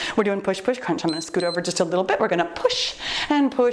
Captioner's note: timer beeps